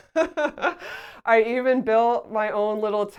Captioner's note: laughs